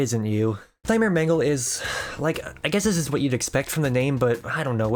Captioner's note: sigh